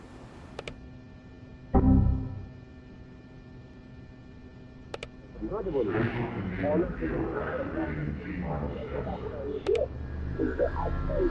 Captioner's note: mouse clicking